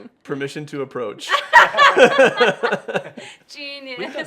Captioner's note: laughing